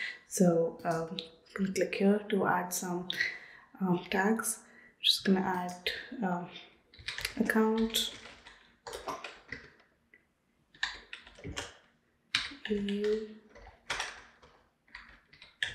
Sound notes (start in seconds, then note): 7.5 keyboard clicking